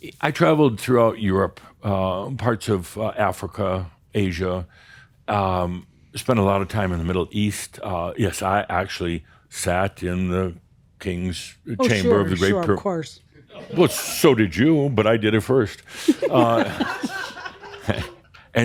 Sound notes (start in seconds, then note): 13.6 more chuckles; 16.0 giggles